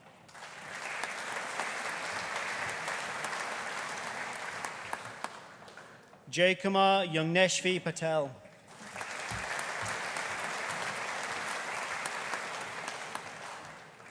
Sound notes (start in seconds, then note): 0.2 audience applauding; 8.6 audience applauding